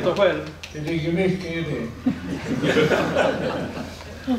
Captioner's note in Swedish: Skratt